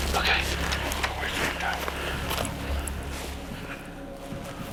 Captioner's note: none